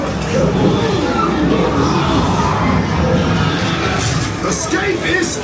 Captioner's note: guests screaming; machine cranking